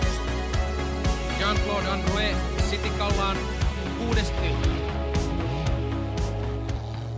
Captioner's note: finnish commentary